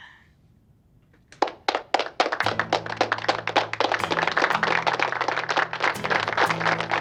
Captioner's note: applause playing; upbeat music